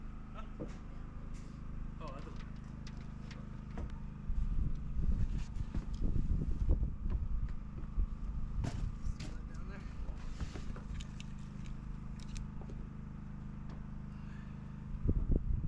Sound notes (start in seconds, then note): 3.4 clippers buzzing; 12.2 wind blowing